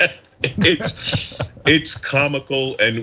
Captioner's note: laugh